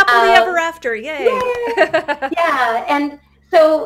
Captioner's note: laughter